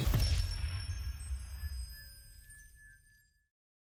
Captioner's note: bell chimes